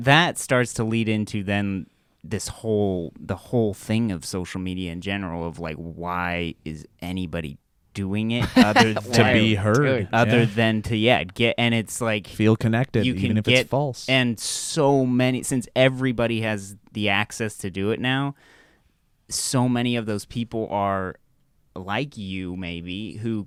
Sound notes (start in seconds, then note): 8.4 laughs